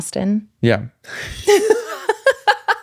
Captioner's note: laughing